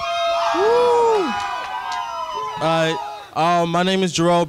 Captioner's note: crowd cheering